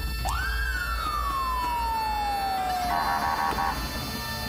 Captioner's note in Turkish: Polis arabası sireni